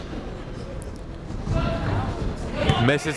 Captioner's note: none